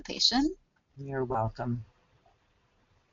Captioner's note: voiceover